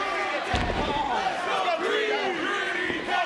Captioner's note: audience chattering; body thudding; audience chattering